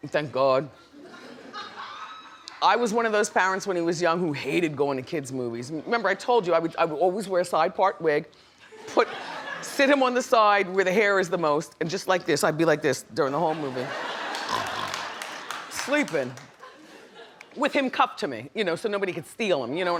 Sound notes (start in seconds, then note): 0.8 audience laughs; 13.5 audience laughs; 14.4 snores